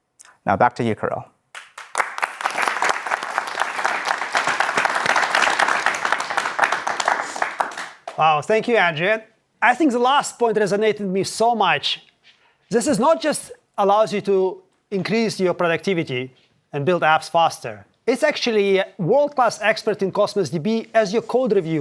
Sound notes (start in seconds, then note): 8.2 applause